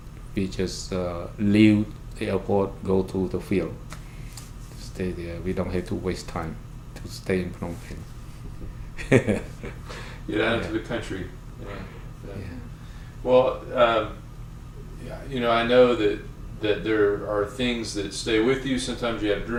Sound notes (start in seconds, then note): 9.0 laughs